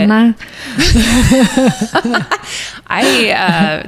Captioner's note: both laugh